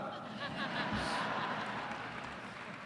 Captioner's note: laughter